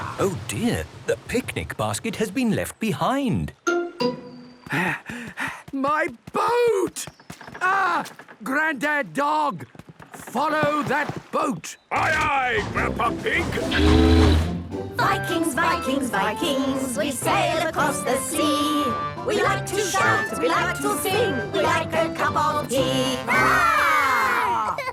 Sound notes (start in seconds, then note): 5.2 panting; 12.0 tooting; 14.7 all singing